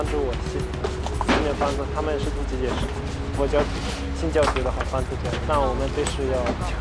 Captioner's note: Chinese spoken audio